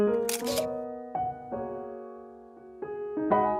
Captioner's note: mellow piano music; camera shutter clicking; mellow piano music